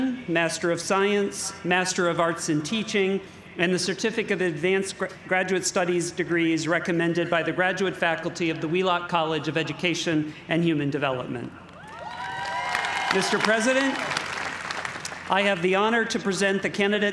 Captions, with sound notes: Master of Science, Master of Arts in Teaching, and the certificate of advanced graduate studies degrees, recommended by the graduate faculty of the Wheelock College of Education and Human Development. (cheers and applause) Mr. President, I have the honor to present the candidates